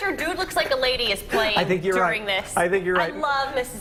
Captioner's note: laughter